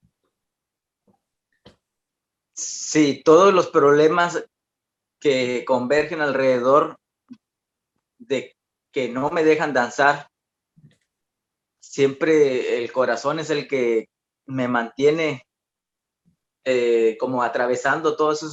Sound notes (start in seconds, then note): 2.3 continues answering in Spanish